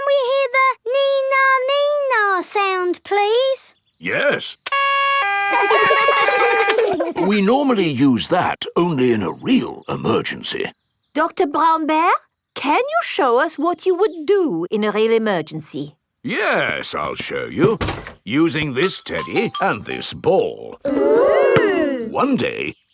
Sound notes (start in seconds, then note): 4.8 siren wailing; 5.4 kids laugh; 6.0 siren stops